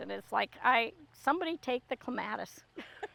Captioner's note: laughing